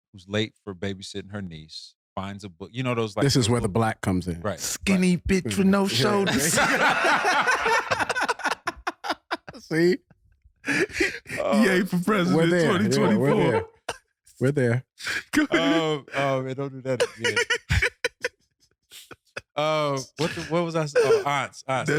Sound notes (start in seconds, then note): 5.5 all laughing; 16.9 laughing